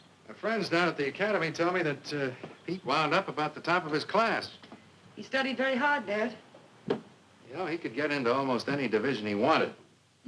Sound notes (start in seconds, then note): none